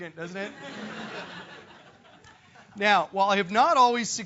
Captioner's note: laugh